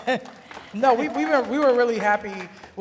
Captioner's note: clapping